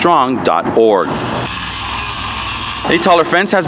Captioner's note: machine whirring